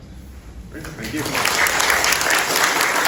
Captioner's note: applause